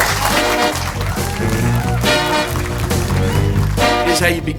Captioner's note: group applauding; lively music